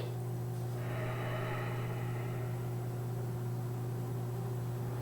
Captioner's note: heavy breathing